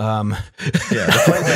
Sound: laughter

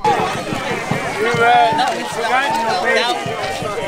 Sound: indistinct crowd

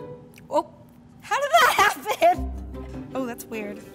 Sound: laughs

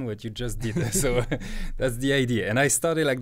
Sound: both laughing

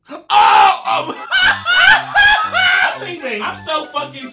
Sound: laughs

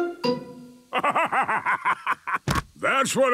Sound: bursting laughter

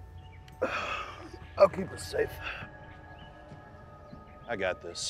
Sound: sighs

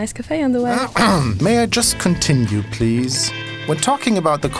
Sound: somebody harrumphs

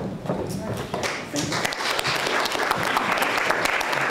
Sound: applause

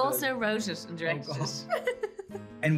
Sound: Ruth chuckles

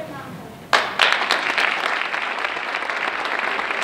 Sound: applause

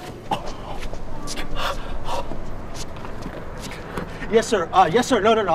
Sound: man softly grunting

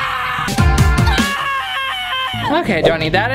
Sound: more strained screaming

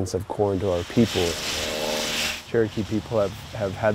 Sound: water spraying

